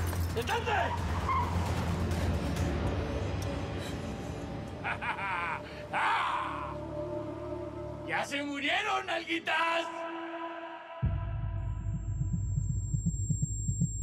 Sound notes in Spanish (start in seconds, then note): 4.7 risa alocada; 9.7 con efecto de eco